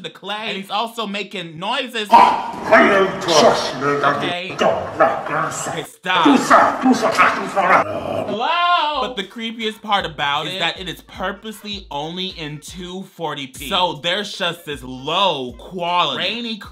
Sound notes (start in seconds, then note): 2.1 demon muttering; 6.2 demon growling